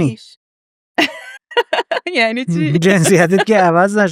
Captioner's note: laughs